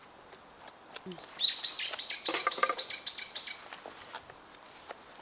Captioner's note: birds chirping more loudly